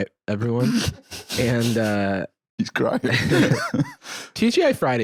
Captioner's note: laughing